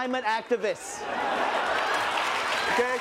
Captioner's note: cheering